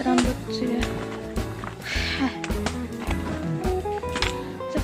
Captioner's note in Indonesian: Menghela Nafas